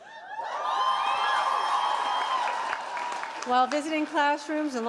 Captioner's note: audience cheering and applauding